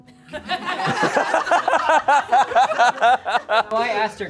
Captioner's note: audience laughing